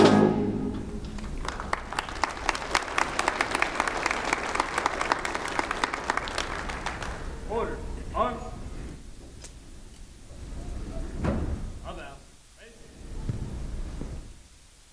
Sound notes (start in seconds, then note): 1.1 applause